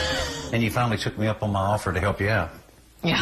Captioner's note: chuckles